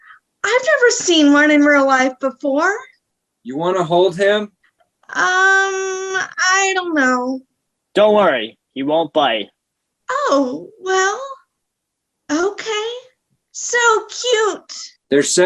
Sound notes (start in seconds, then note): none